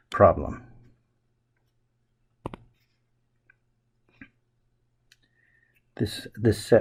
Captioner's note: writing Sounds